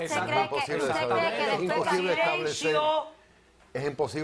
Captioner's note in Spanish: Hablan al unísono